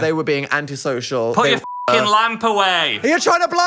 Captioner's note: beep